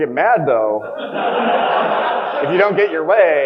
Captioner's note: audience laughing